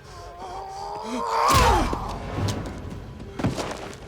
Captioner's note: Knox grunting